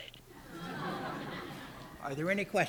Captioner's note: laughter